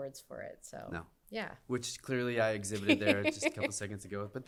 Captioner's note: laughter